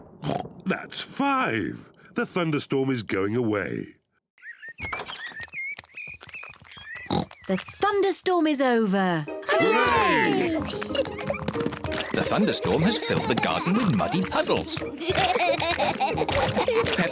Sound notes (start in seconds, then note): 0.0 thunder rumbles; 0.3 oinks; 4.3 birds chirp; 7.1 oinks; 9.9 kids giggle; 15.3 both laughing